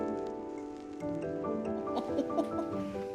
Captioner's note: laughing